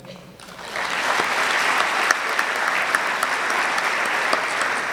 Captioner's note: audience clapping